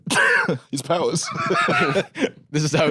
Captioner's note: both laugh